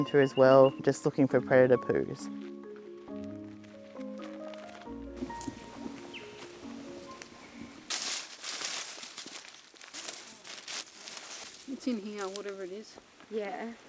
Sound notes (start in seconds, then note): 5.2 birds chirping; 7.9 leaves rustling